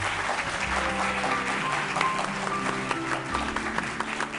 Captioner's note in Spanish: Aplausos